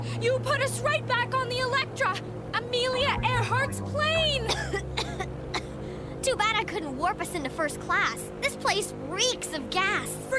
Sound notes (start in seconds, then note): 4.2 coughs